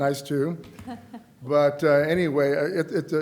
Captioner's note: laughter